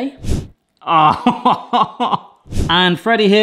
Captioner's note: laughing